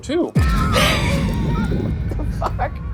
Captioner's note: suspenseful music; wheezes